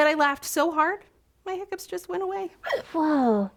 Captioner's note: hic